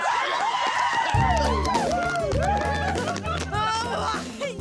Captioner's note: cheering, applause; laughing